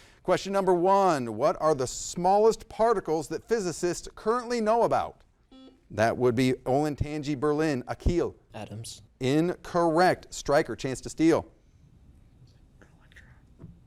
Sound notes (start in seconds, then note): 5.5 buzzer blaring